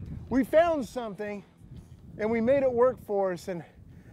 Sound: none

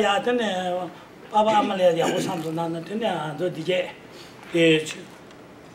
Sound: speaking in foreign language

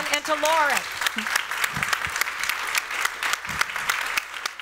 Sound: applause

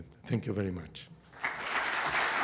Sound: applause

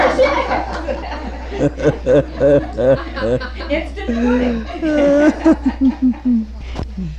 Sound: laughter; laughing

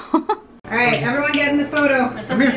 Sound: chuckles

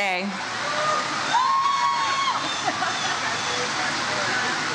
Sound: audience cheers

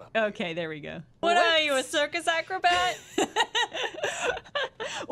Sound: laughter

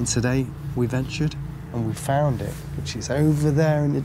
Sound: none

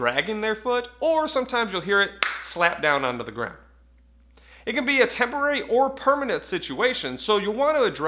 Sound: hand clap

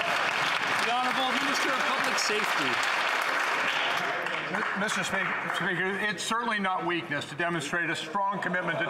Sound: some Applause

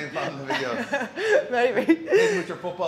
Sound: laugh

